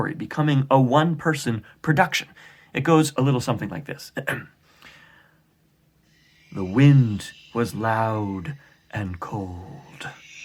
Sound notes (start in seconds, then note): 6.4 wind blowing